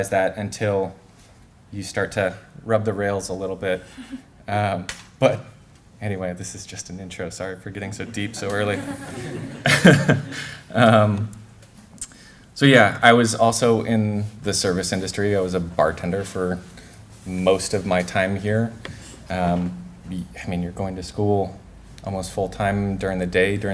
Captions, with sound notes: THAT UNTIL YOU START TO RUB THE RAILS A LITTLE BIT. BUT ANYWAY THIS IS JUST AN INTRO. SORRY FOR GETTING SO DEEP SO EARLY. [LAUGHTER] SO YEAH I WAS ALSO IN THE SERVICE INDUSTRY. I WAS A BARTENDER FOR MOST OF MY TIME HERE. I MEAN YOU'RE GOING TO SCHOOL ALMOST FULL TIME DURING THE DAY,